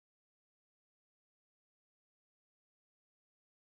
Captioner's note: none